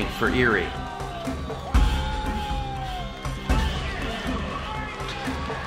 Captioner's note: fans cheer!